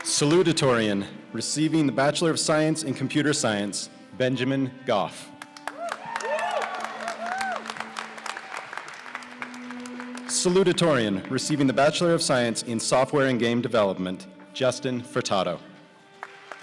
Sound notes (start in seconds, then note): 5.5 cheers and applause; 16.2 cheers and applause